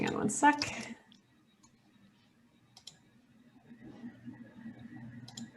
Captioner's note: mouse clicking